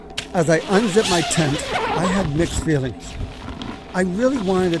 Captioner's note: zipper buzzes